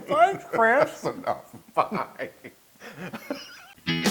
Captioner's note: laugh